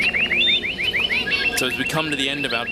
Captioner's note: birds chirping